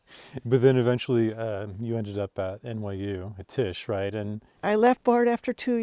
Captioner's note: laughing